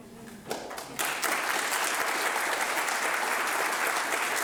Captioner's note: audience applauding